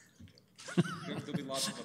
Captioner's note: laughs